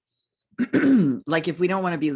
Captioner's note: clears throat